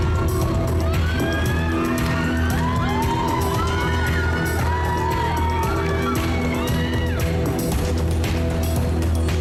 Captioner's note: audience screaming